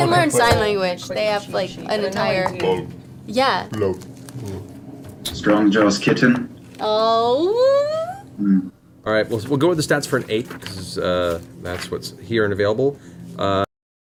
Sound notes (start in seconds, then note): none